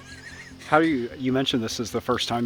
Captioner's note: person laughing